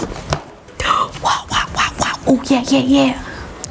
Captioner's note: gasping